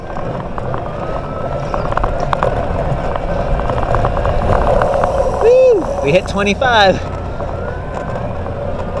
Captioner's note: motor whirring noise